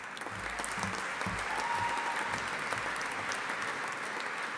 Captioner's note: audience applauding